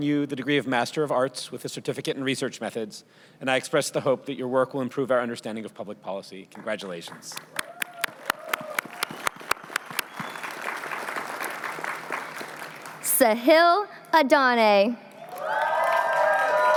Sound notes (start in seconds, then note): 7.5 cheering